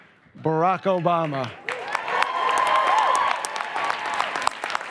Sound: applause and cheers

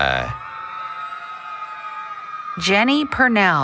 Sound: cheering

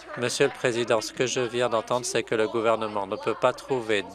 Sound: applause

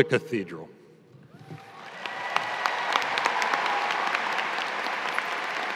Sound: audience applauding

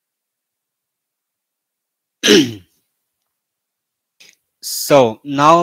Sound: 沉默加咳嗽

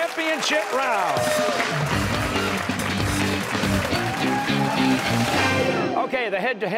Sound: cheers and applause

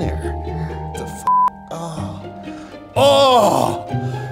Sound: moans

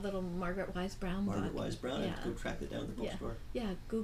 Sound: voiceover

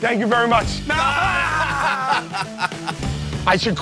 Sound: laughter

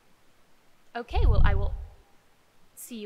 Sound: whoosh

